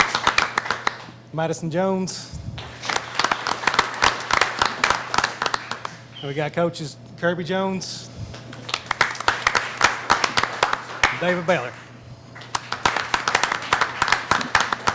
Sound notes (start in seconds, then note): 2.6 clapping; 8.3 clapping